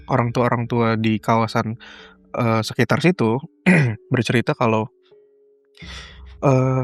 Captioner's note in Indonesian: berdehem